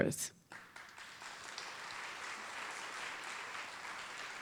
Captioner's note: audience applauding